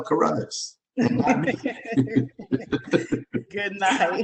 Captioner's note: chuckling